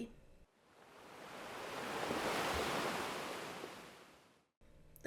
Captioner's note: waves crashing